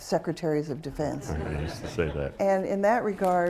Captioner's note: laughter